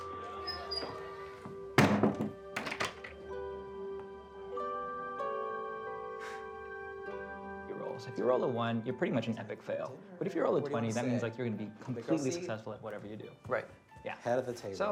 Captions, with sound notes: (door banging) (poignant music) - You roll. If you roll a one, you're pretty much an epic fail. But if you roll a 20, that means like you're gonna be completely successful at whatever you do, right? - Yeah.